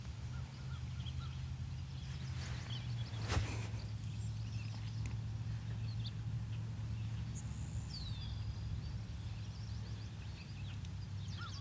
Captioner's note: birds chirping